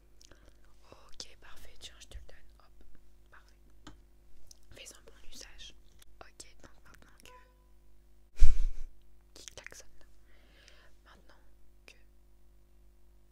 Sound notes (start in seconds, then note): 7.2 horn of a car